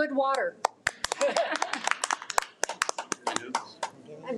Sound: audience applauding

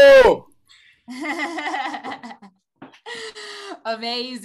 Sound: laughing

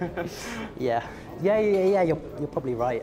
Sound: chuckles

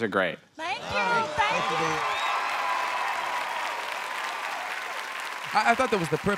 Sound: audience cheers

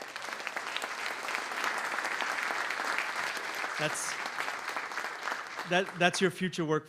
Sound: applause

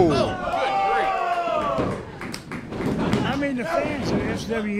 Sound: cheering

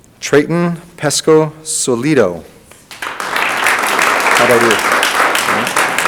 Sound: audience applauding

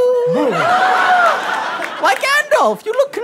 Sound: gasps

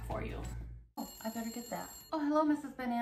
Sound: phone rings

